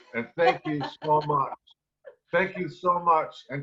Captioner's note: laughs